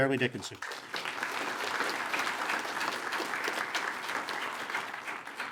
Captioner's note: attendees applaud